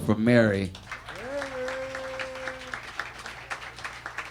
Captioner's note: audience applauding